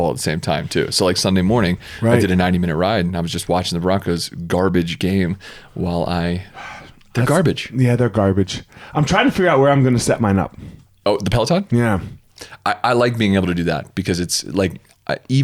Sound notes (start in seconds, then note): 7.5 sighs